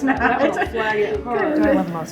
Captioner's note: laughs